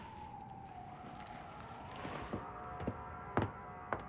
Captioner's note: sirens blaring